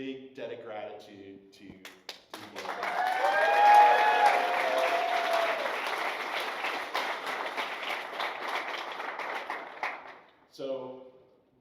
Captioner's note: applause